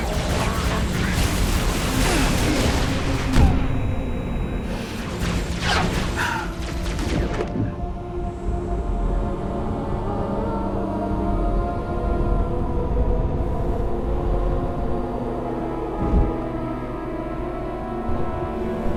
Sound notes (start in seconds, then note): 6.1 exhale; 7.5 sounds become muffled